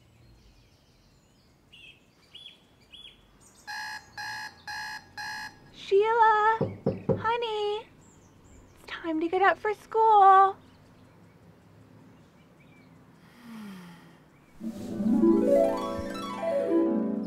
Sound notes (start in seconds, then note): 1.8 birds chirp; 3.6 alarm buzzes; 14.6 uplifting harp music